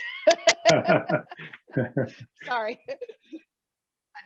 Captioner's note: both laughing